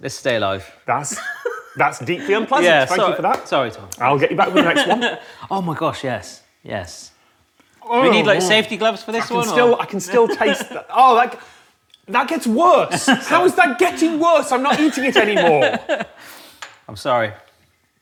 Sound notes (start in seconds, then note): 16.3 laughs